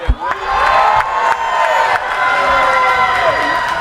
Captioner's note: cheering